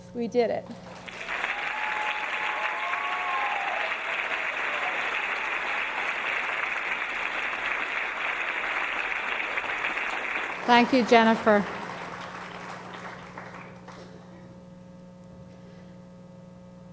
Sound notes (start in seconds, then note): 1.1 audience cheering